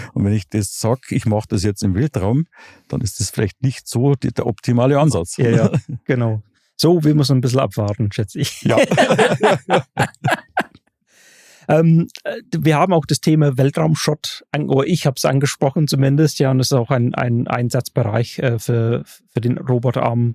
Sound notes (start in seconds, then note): 8.6 alle lachen